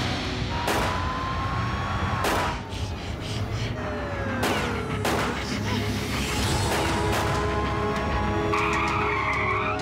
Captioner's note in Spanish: ruido de sirenas y disparos; chirrido de neumáticos